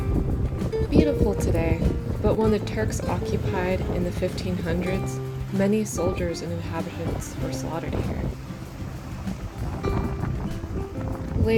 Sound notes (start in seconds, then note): none